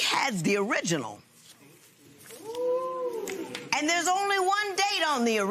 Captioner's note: spectators murmur